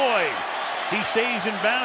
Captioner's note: cheering